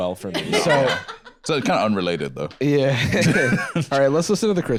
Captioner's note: laughing